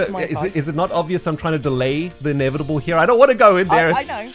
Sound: stammers

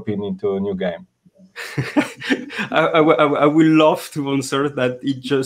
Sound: laughs

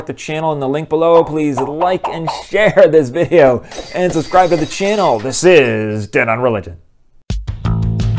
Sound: glass breaking

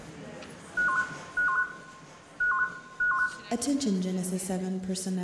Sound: tone sounding

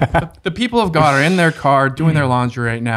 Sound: group chuckles

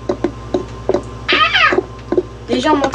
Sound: screams

